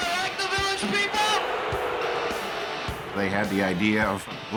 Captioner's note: crowd boos